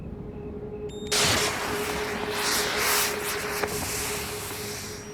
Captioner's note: rocket hisses